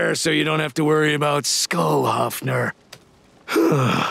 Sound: sighing

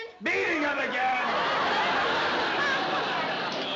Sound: laughter

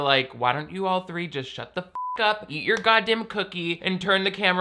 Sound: beep

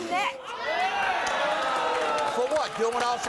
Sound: audience cheers

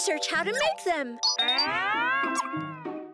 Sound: beeps

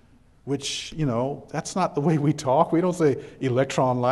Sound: chuckles

